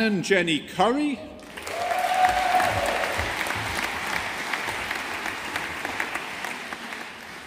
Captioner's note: audience applauding